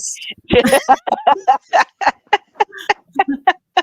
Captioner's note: all laughing